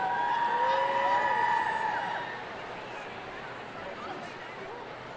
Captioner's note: audience cheering